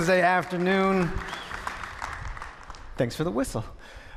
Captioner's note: person whistles